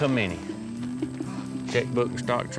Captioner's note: laughing